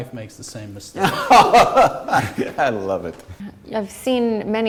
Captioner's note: laughter